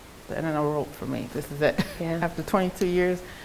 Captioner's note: chuckles